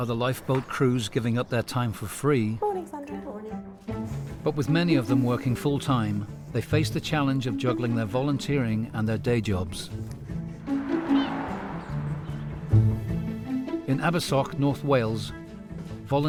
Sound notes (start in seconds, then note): 10.0 lighthearted music; 10.5 car whooshing; 10.6 birds whistling; 12.7 lighthearted music